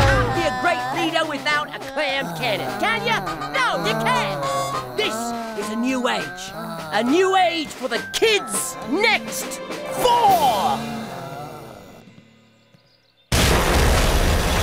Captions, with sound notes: YOU CAN'T BE A GREAT LEADER WITHOUT A CLAM CANNON, CAN YOU?! NO, YOU CAN'T! THIS IS A NEW AGE -- A NEW AGE FOR THE KIDS NEXT "FOUR." [ GROANING ] [ GROANING ]